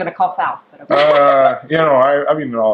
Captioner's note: laughter